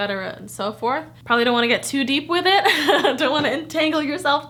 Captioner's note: laughs